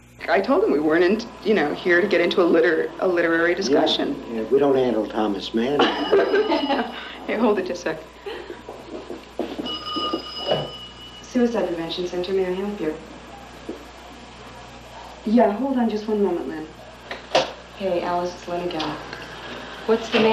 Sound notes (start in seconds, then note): 5.8 laughter; 9.3 phone ringing